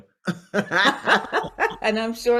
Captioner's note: both laugh